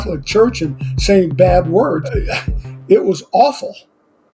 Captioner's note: chuckles